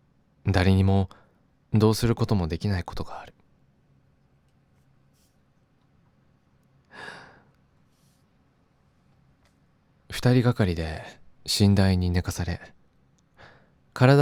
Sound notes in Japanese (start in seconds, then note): 6.9 息をのむ音; 6.9 ため息